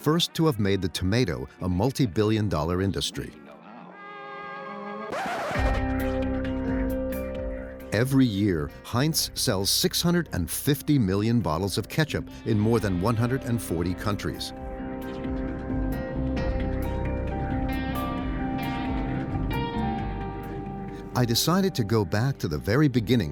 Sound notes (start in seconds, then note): 5.0 thoughtful music; 5.1 record scratching